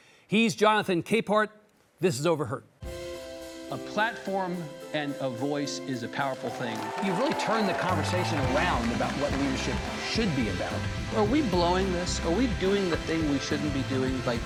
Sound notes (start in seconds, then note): 2.9 bright music; 6.2 audience clapping and cheering